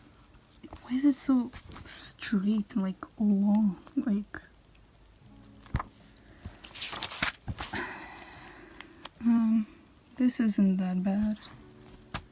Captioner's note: sigh